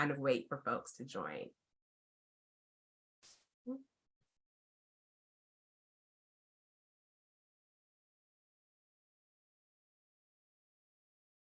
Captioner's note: silence